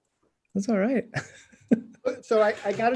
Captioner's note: laughing